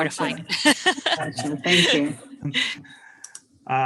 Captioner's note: laughs